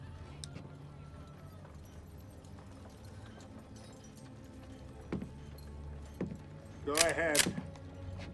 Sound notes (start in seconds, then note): 5.5 footsteps clomping